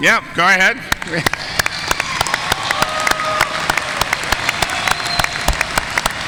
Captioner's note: audience cheering and applauding